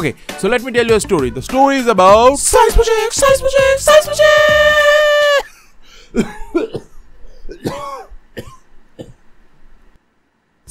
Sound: coughing

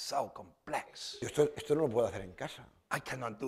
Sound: speaking spanish

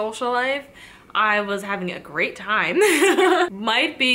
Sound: chuckles

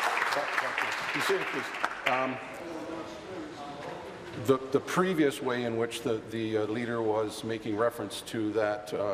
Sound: applause

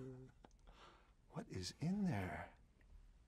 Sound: talks quietly

